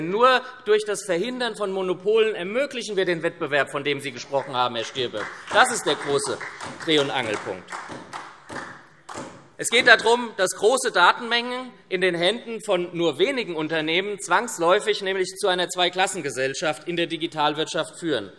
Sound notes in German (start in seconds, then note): 8.0 Beifall SPD